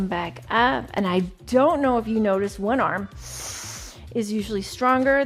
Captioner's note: inhales